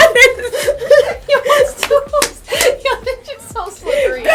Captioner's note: laughter